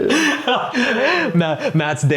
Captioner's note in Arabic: يضحك